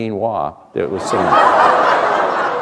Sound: laughter

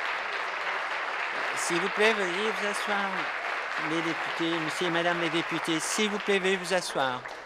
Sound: applause

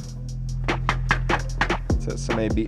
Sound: knocking on door

